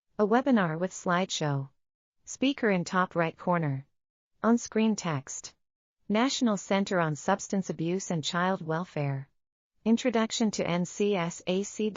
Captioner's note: audio Description being read